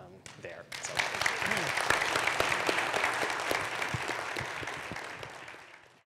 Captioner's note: applause